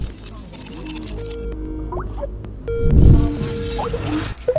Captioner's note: Skype ringing